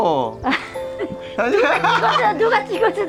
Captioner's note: both laughing